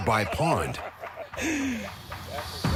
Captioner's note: men laughing